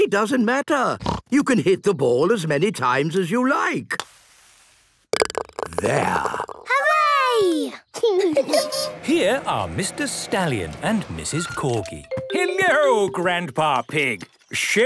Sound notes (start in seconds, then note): 8.0 laughing